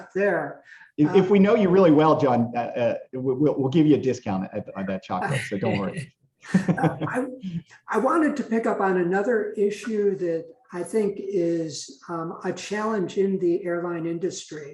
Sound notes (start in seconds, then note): 6.5 laughter